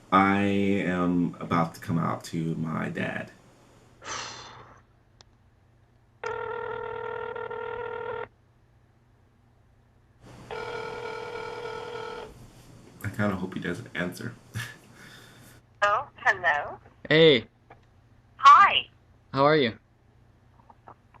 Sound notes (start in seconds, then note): 4.0 sighs; 6.2 phone ringing